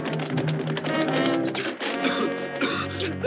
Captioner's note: coughing